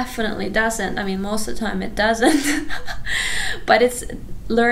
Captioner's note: laughs